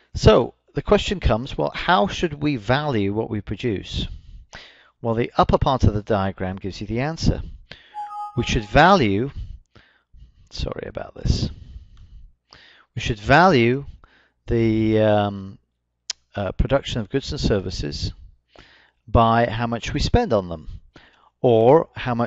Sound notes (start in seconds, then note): 7.9 computer chimes again